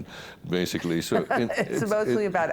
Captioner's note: laughing